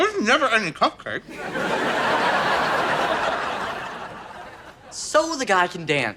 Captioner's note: audience laughter